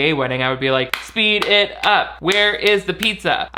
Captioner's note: clapping